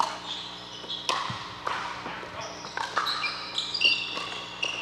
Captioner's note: ball bouncing